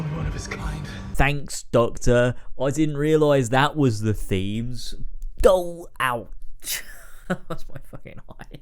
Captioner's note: laughs